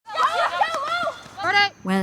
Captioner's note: sound of field hockey game in progress